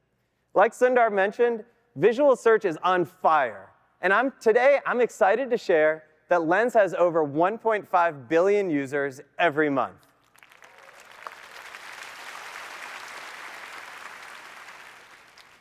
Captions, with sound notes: Like Sundar mentioned, visual search is on fire. And today, I'm excited to share that Lens has over 1.5 billion users every month. [APPLAUSE]